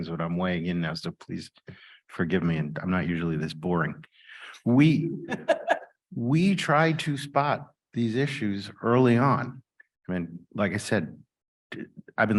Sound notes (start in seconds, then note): 5.2 laughs